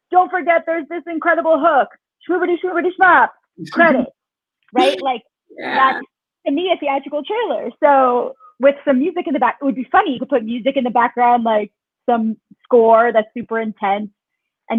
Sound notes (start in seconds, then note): 2.3 speaks faintly